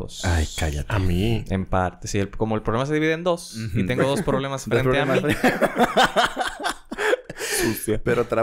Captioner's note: laughs